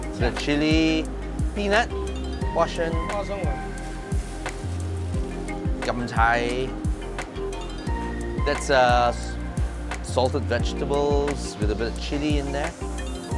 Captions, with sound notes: It's a chili peanut. [speaking Taiwanese] That's, uh, salted vegetables with a bit of chili in there.